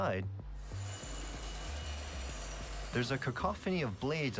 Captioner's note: saws whirring